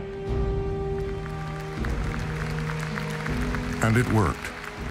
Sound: applause

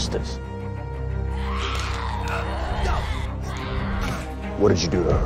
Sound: snarling

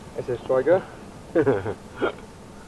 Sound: giggle

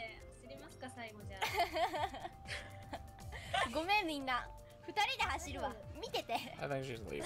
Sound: laughs

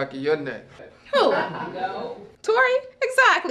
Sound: laughing

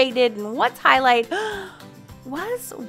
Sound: gasps

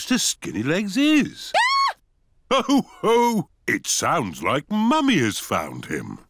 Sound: mummy pig screams

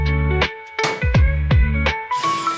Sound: relaxed music; nail thuds; drill hums; relaxed music

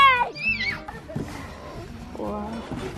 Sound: child screeching

